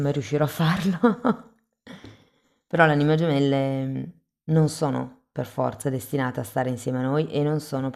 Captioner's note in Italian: risate